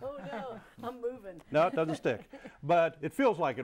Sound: laughing

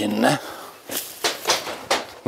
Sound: clattering

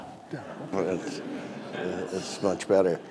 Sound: audience laughing

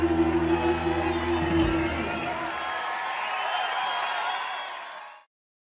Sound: applause and cheering

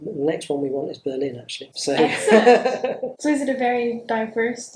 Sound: laughs

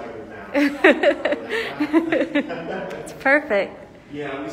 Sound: laughs

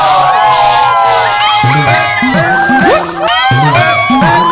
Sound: all Shouting

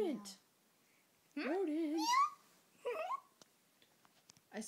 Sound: Shay meowing

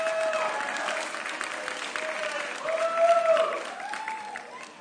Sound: audience cheering

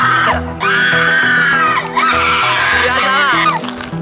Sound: agonizing scream

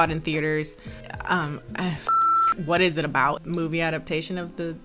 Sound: beep

